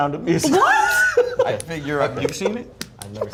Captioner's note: laughs